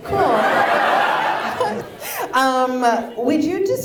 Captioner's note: audience laughs